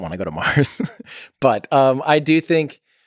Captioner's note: Tim laughs